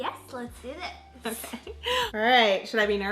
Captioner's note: laughs